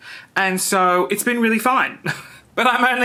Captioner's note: laughs